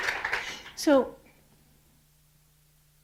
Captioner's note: applause